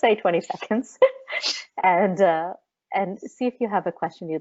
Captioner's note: laughs